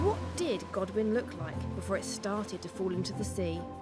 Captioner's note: waves crashing